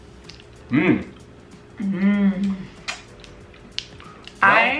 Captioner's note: mouth smacking